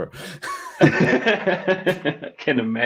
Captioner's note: laughter